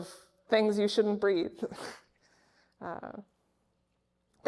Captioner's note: laughs